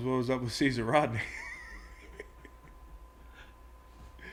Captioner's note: laugh